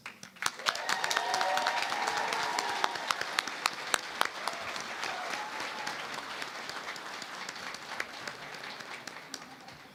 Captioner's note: applause